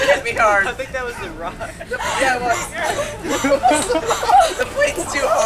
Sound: group laughing

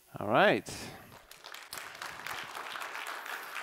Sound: applause

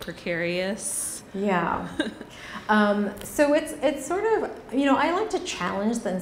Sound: woman laughs

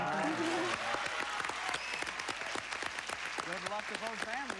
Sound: cheers and applause

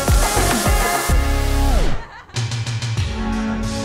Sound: laughter

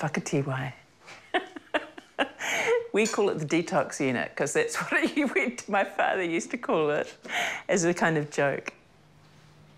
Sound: laughs

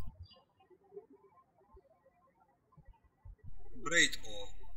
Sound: birds chirping

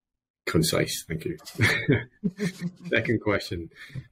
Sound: both laugh

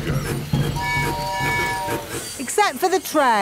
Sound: train tooting

